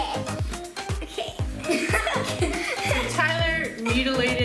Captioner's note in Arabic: يضحك